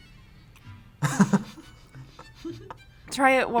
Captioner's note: both laugh